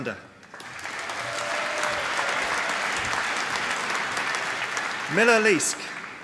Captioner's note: applause